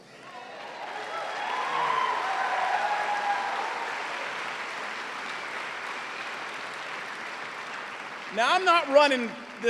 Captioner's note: cheers and applause